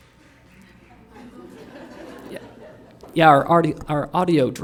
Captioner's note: laughter